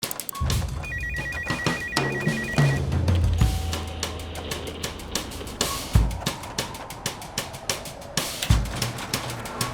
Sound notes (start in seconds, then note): 0.0 upbeat music; 0.7 phone rings